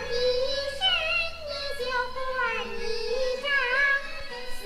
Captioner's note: speaking foreign language